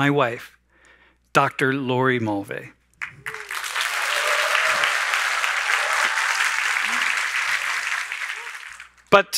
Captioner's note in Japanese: 拍手と歓声